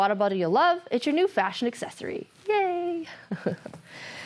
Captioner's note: chuckles